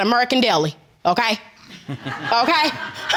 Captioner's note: audience laughing; chuckles